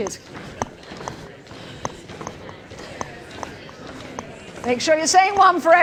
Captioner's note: indistinct chatter